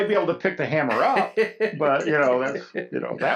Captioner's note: laughs